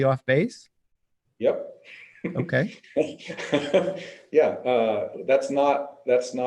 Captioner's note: laughs